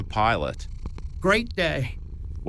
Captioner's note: purring cat can be heard in the background